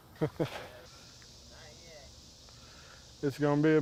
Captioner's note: fire crackles